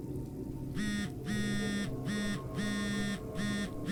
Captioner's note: phone buzzes